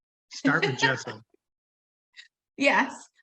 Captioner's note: laughing